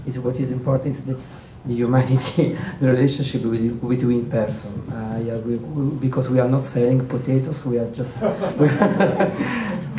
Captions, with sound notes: what is important to you might think is the relationship with the person because we are not selling potatoes (laughter)